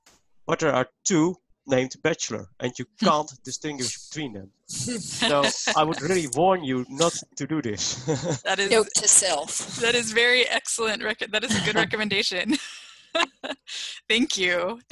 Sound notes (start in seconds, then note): 4.5 laughter; 11.5 laughter